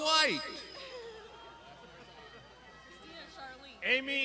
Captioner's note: crowd laughs